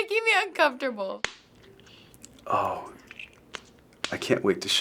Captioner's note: gum cracking